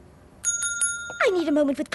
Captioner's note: desk bell rings